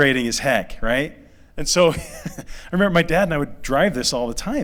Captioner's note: laughter